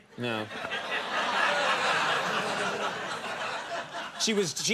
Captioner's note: audience laughing